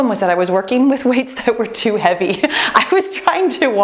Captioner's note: laughs